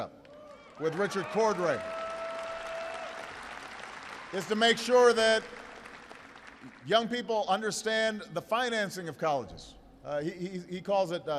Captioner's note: applause